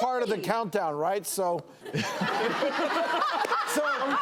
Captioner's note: laughter